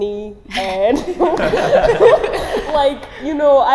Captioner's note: laughing